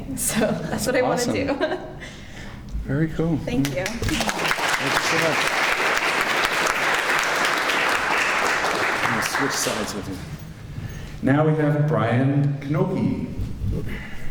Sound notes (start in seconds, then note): 1.3 giggles; 3.6 clapping